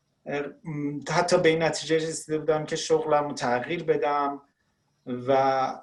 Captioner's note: speaking Farsi